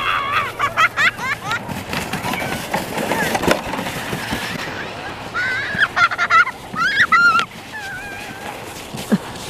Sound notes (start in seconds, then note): 0.0 laughing; 1.7 cheering; 1.7 laughing